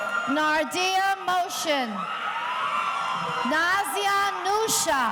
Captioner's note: audience cheering